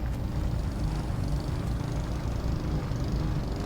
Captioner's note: mower rumbling